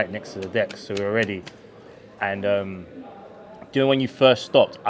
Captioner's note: clapping